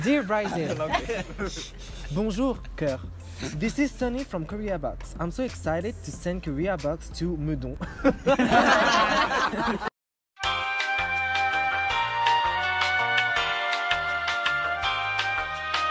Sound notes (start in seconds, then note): 7.8 general laugh